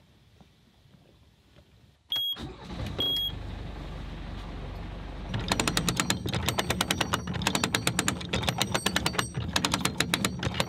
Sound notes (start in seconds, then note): 2.4 engine running; 5.3 lever cranking